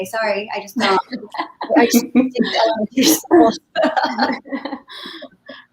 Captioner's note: laughing in unison